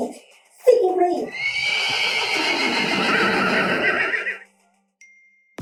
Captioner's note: neighing sounds